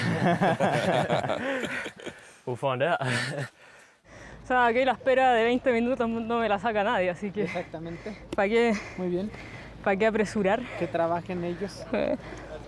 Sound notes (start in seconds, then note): 0.0 all laughing; 4.6 speaking in foreign language